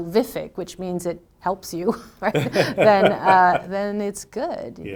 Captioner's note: both laughing